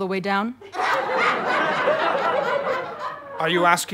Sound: audience laughter

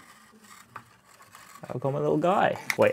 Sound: wheel model rustling

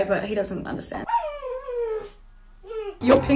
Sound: dog whines

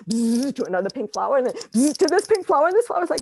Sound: buzzes

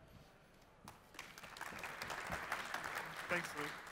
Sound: applause

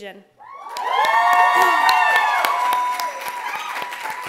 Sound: clapping

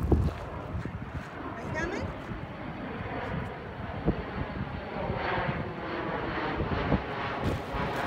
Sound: loud Airplne overhead

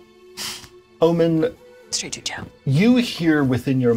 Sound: whispers

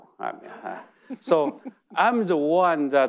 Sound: chuckles

